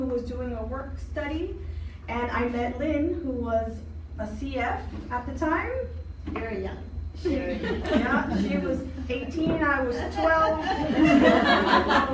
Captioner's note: laughing